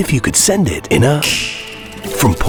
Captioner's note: finger snaps